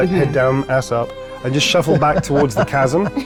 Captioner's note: laughing